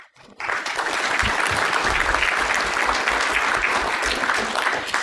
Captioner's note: applause